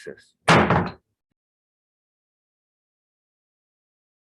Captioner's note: gavel slamming